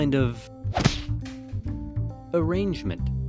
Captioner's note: slam